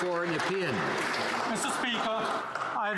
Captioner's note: some Applause